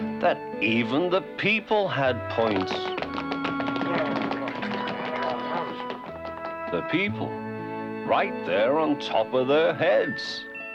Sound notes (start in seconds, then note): 4.2 clamoring